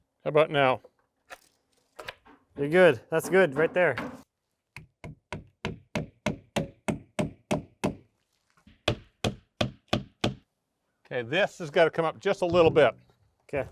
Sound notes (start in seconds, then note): 5.2 hammer knocking